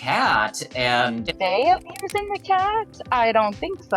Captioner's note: fire crackling